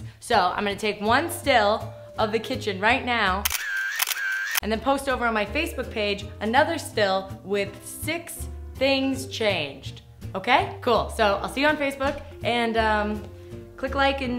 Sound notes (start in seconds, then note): 3.4 camera clicks